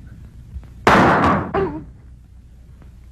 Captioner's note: gun fires